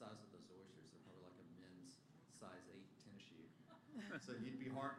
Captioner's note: laughter